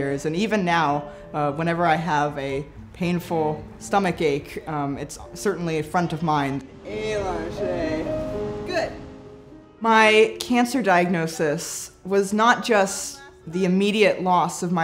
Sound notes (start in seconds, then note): 7.2 speaking in a foreign language